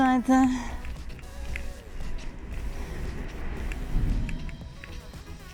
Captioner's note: traffic + music